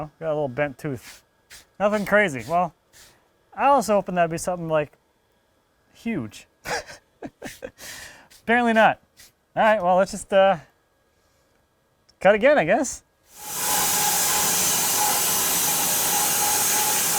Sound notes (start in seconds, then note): 6.6 laughs; 13.3 sawing machine whirring